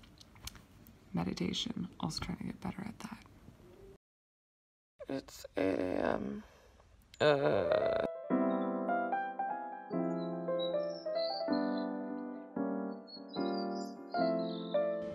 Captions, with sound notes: Meditation, Australia, better at that. It's 8:00 a.m. (groans) (piano music)